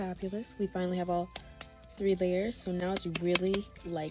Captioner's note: tap tap